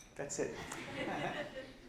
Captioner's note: laughs